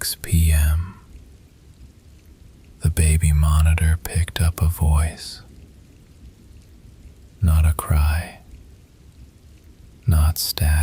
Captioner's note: whispering